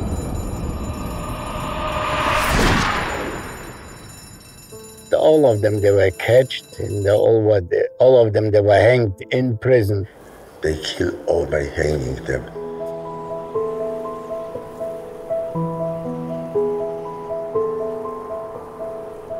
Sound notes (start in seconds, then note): 2.8 gunfire blasting; 13.6 soft uneasy music